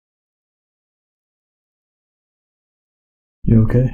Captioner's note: silence conts